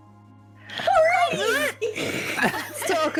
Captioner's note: squeal